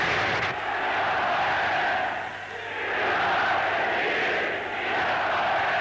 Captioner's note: crowd chanting in foreign language